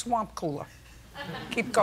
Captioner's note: laughter